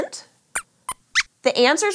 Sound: squeaks squeaks

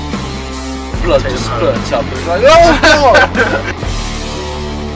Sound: laughs

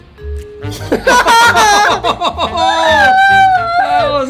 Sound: both laughing

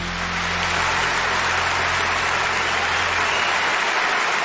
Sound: applause

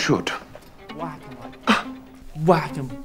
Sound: sigh of disbelief

